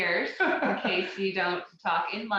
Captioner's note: laughing